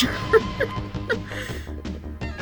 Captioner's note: laughing